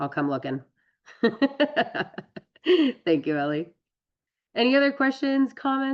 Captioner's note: laughs